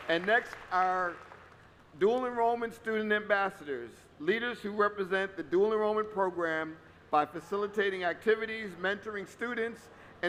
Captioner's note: applause